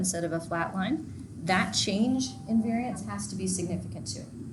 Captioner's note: bells chiming